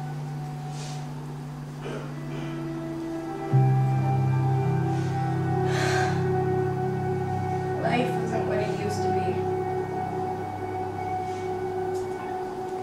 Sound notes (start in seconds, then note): 5.6 sigh; 11.0 eerie music